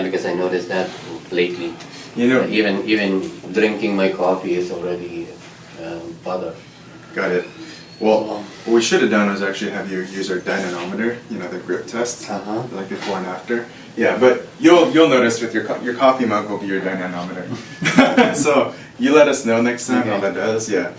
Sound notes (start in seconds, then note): 17.5 doctor laughs